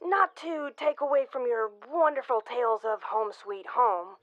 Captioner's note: none